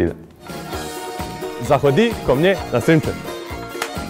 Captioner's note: speaks russian